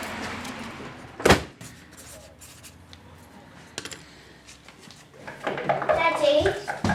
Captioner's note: door shuts; pen scribbles